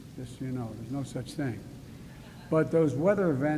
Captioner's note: laughter